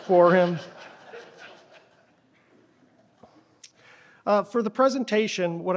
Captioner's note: laughter